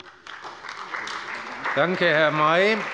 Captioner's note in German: Beifall bei BÜNDNIS 90/DIE GRÜNEN und der CDU